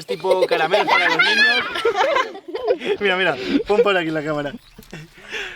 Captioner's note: laughs